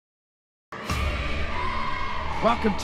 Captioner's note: team chanting; intense bass music